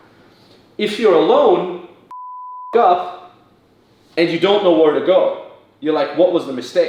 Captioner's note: beep